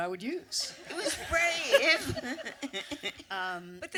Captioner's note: audience laughter